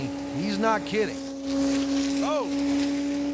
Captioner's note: grinder whirring